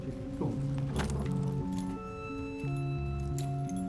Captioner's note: keys jingling